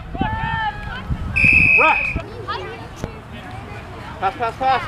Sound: whistle blowing

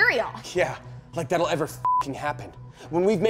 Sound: beep

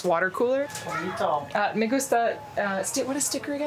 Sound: speaking foreign language

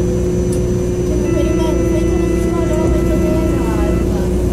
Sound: buzzer

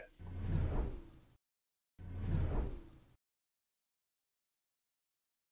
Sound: graphics whooshing

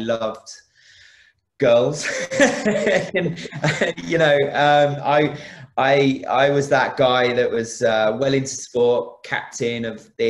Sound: laughs

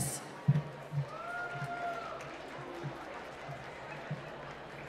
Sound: applause

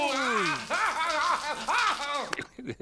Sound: screaming

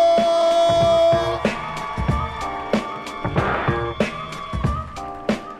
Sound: audience cheering

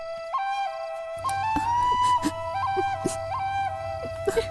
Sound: crying

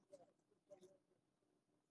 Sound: off microphone

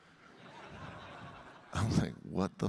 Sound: audience laughing

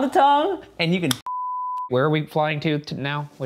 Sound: beep

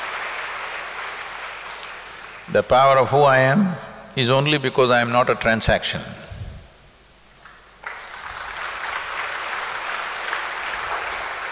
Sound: applause

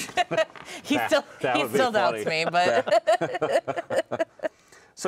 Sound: laughs; laughing

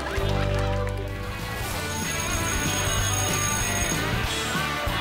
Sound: bell ringing

